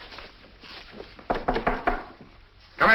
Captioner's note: knock at the door